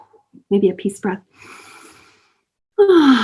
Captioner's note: exhaling